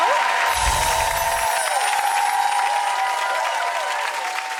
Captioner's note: crowd cheers; bells chiming